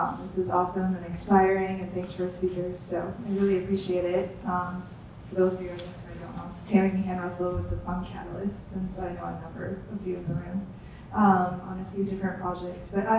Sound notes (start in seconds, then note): 6.9 speaks faintly